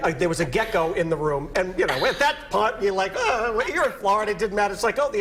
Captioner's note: laughter